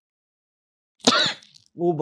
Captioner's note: sneezes